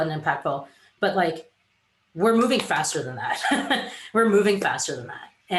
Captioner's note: giggles